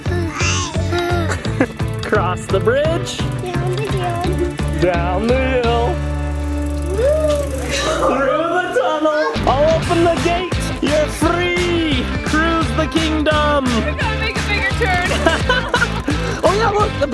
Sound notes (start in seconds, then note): 0.1 laughs; 14.6 laughs